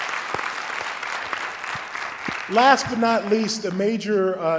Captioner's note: applause